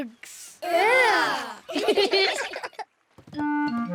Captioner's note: giggle